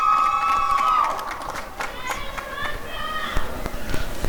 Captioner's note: applause and cheering